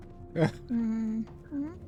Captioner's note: laughing